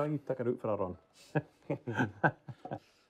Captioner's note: laughs